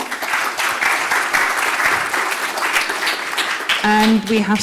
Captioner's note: applause